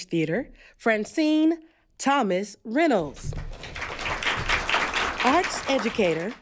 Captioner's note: applause